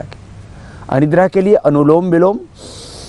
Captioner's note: breathing exercise